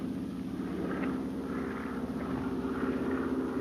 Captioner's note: engine droning